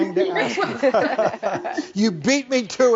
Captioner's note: all laughing